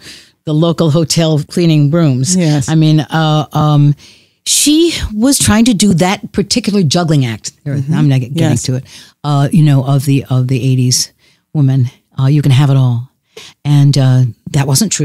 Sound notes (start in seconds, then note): none